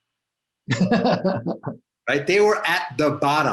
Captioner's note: laughs